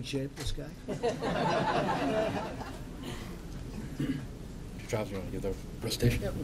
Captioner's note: laughter